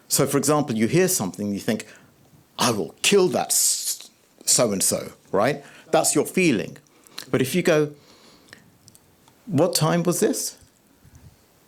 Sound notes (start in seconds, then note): none